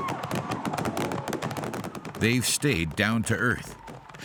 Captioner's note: fireworks explode